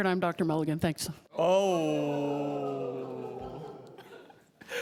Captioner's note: laughter